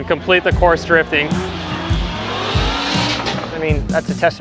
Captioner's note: car engines roar